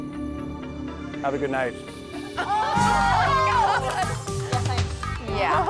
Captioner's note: contestants exclaiming